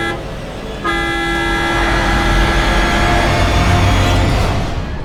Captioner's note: tires squealing